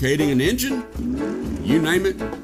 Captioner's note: engine goes vroom